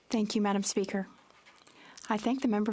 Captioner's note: speaking French